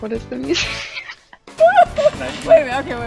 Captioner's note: chuckling